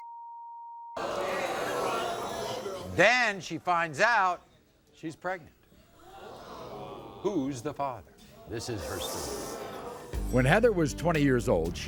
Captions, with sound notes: (crowd gasping) Then, she finds out, she's pregnant. Who's the father? This is her story. When Heather was 20 years old